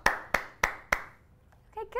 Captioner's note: clapping